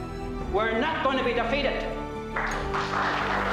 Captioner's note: applause